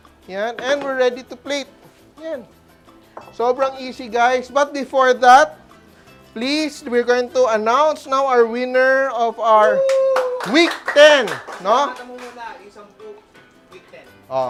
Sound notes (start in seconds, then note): 9.7 cheers; 9.8 applause